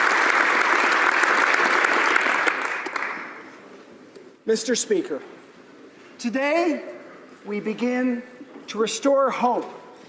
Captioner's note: applause